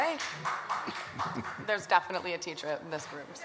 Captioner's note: one audience member claps